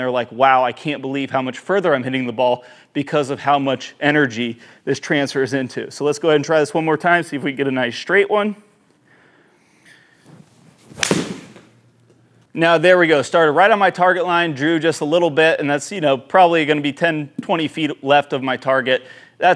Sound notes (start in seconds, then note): 10.8 golf club thudding